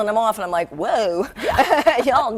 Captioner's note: laughing